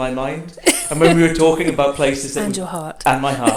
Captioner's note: laughs